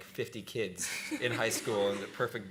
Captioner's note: laughter